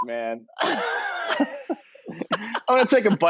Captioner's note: laughing